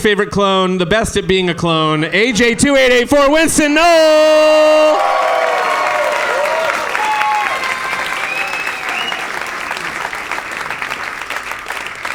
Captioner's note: audience applause